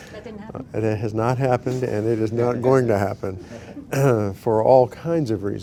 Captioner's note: laughter